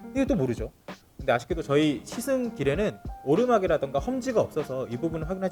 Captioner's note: none